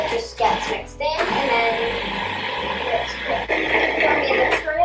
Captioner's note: whirling noise